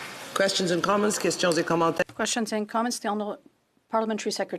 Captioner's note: some Applause